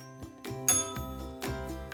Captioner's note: bell rings